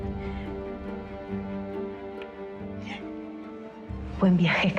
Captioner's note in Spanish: sollozos